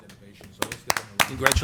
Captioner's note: applause